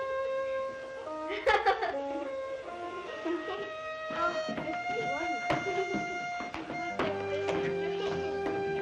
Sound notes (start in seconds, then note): 1.2 children laughing